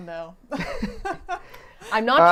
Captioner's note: laughing